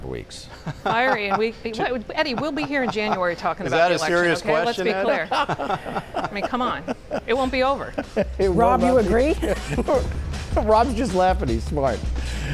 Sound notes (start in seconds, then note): 4.9 laughter